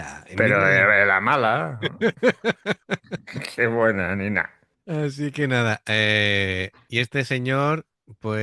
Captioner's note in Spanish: risas